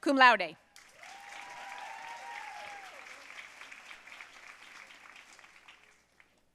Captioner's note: audience cheering and applauding